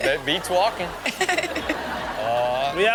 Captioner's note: laughs